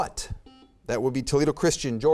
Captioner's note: buzzer beeps